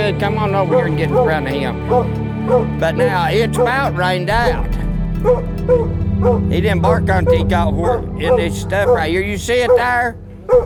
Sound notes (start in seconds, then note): 2.5 dogs barking